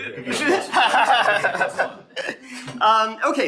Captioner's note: audience laughing; laughing